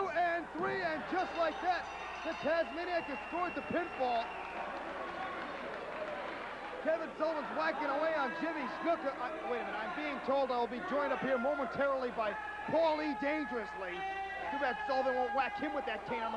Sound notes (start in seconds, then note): 0.0 bell ringing; 4.5 crowd cheering